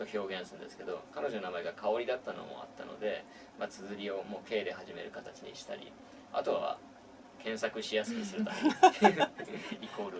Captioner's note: laugh